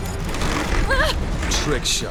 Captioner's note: wincing